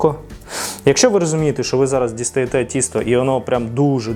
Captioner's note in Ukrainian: сопіння